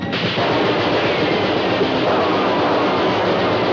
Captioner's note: gunshots firing